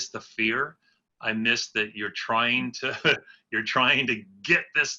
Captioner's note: laughs